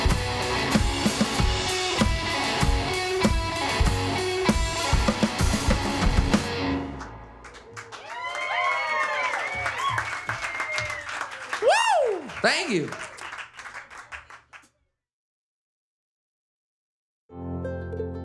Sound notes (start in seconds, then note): 0.0 upbeat music; 7.4 crowd cheers and claps; 7.4 crowd; 13.4 applause